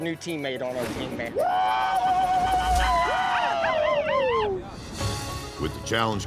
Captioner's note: cheering